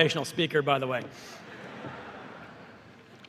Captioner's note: laughter